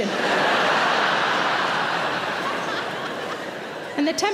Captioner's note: audience laughing